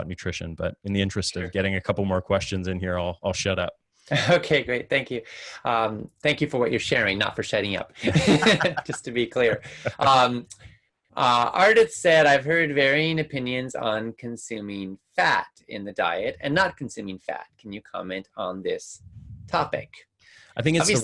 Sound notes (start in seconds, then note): 8.0 laughing